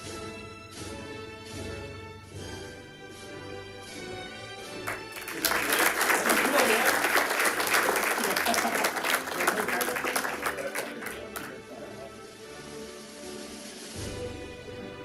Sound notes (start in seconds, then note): 4.8 audience and participants applauding; 9.4 participants chattering